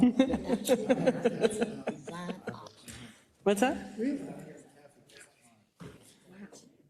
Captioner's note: laugh